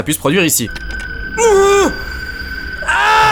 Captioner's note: contained orgasm